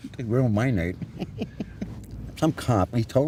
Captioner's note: laughter